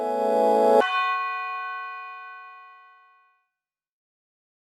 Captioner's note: bell rings